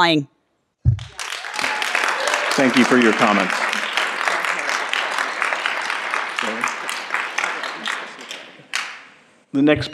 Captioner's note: applause and Cheering